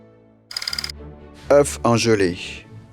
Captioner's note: slide rolling